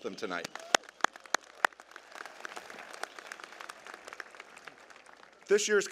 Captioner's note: applause